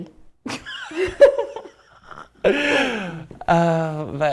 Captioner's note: laughing